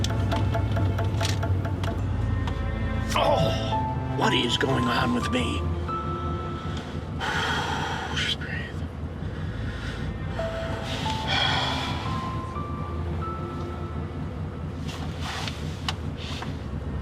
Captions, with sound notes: - (groans) What is going on with me? (sighs) Oh, just breathe.